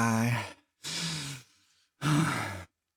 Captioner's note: sighs